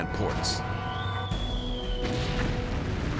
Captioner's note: artillery whistle